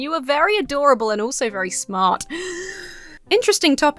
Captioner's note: inhales sharply